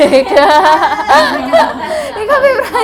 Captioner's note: laughs